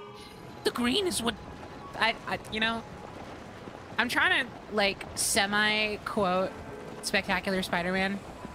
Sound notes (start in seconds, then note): 0.5 gravelly Voice